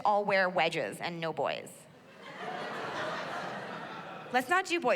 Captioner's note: laughter